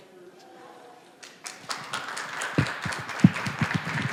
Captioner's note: applause